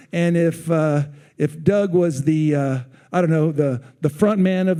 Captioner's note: none